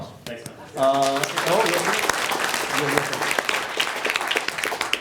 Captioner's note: applauding